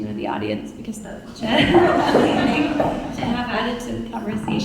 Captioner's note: audience laughing